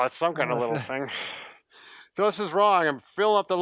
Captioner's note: exhales